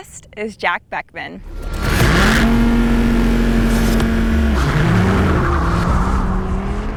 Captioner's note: car engine